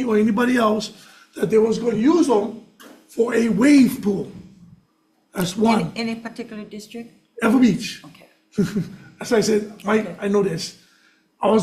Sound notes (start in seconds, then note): 8.5 chuckles